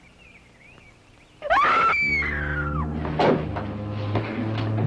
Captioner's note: Eileen screams